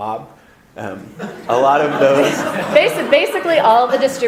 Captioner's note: audience laughter